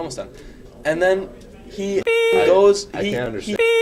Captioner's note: beep